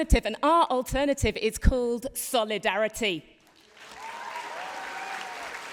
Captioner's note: applause